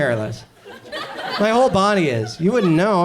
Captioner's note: audience chuckles